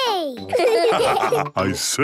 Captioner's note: laughs; all laugh